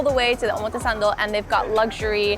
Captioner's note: speaking foreign language